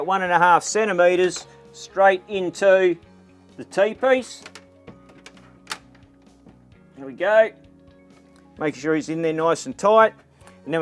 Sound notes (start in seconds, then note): none